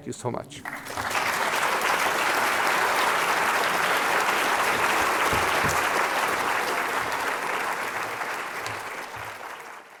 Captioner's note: applause